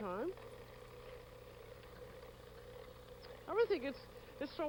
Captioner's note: whirring